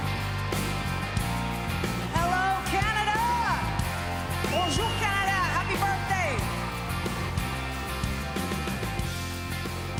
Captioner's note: applause